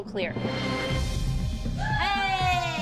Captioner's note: whooping